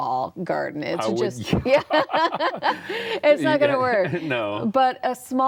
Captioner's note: laughing